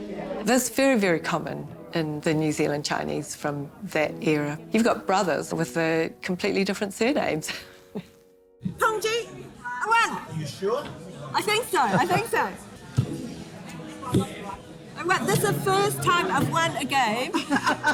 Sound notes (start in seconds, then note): 7.9 chuckles; 9.0 speaks in foreign language